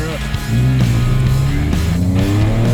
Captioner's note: car engine roaring